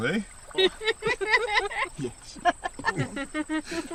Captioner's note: all laughing